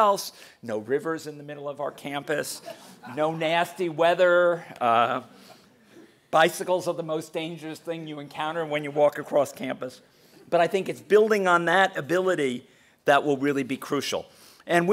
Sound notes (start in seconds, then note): 3.1 laugh